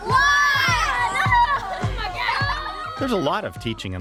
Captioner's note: children laughing